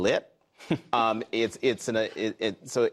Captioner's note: laughter